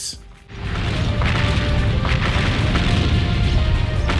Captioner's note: cannons booming